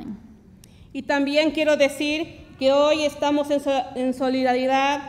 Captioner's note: speaks Spanish